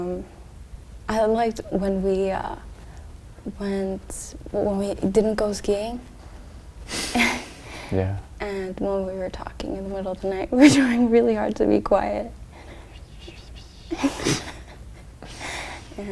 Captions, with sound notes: I liked when we... When we didn't go skiing (laughs) - Yeah. - And when we were talking in the middle of the night we were trying really hard to be quiet - (whispering noises) (both laugh)